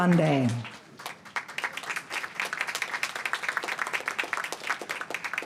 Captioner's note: applause